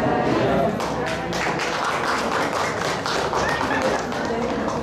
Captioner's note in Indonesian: tepuk tangan